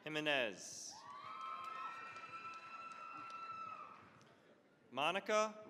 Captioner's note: cheering, applause